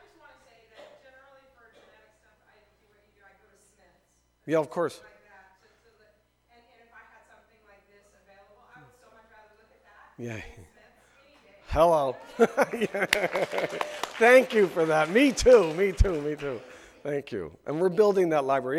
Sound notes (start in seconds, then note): 14.8 laughs; 15.8 audience claps